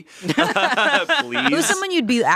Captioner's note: laugh